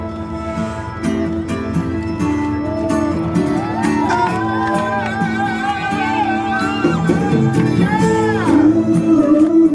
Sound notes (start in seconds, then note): 1.0 cheering; 1.0 upbeat music